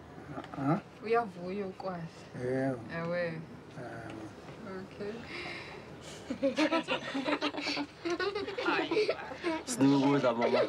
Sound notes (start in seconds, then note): 2.3 speaking Swahili; 4.5 in English; 6.3 children giggling